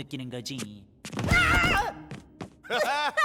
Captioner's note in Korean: 비명 소리; 둘 다 웃음